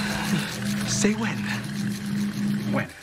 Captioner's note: cheese grater cranking